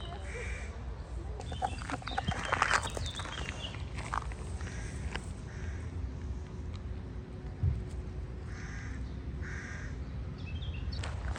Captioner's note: birds chirping